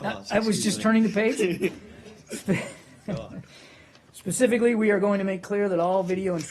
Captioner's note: laughter